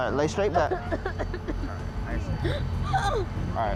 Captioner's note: coughing